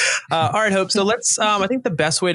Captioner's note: chuckling